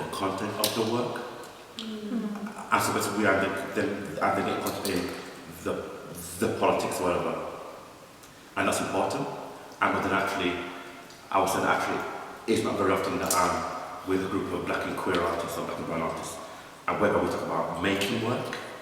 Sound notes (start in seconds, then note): none